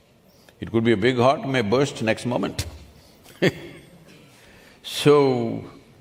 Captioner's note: laughs